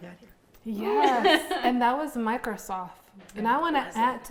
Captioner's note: laughing